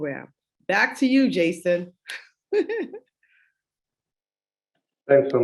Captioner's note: chuckles